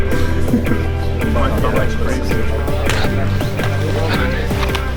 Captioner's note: students chattering